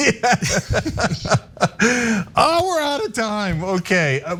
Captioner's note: laugh